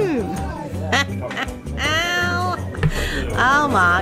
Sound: laughs

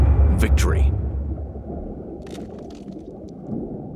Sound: crunching

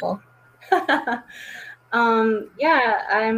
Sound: laughs

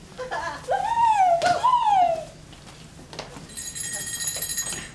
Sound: Emmy squeals; laughs; bell rings

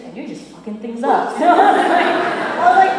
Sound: laughter

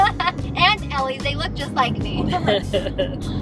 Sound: laughs

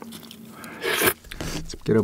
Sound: slurp

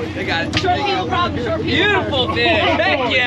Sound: whooping

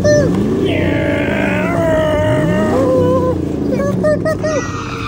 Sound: tires squeal; dad imitating engine; dad imitating tires; tires squealing

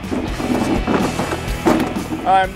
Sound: lawnmower rattling

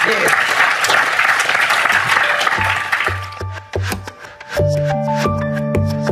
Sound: audience Applause

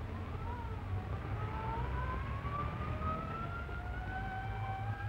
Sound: sirens

